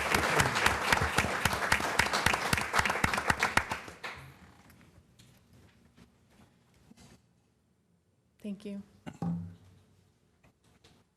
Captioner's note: applause